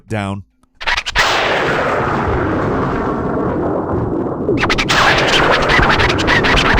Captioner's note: disc screeching; thunder rumbling